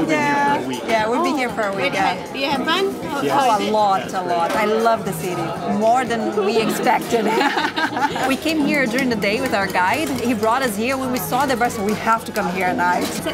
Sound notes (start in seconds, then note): 7.2 laughs